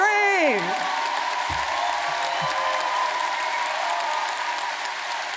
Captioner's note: audience cheering and applauding